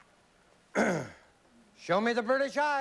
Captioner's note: clears throat